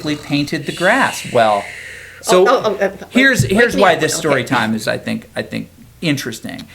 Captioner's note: fake snoring